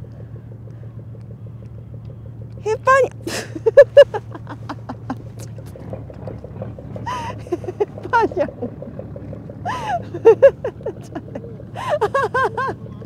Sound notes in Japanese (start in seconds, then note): 3.3 大笑い; 9.6 大爆笑